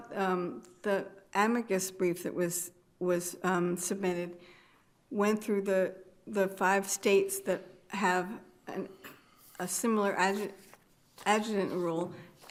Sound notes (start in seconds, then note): none